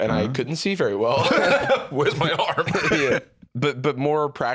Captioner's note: laughs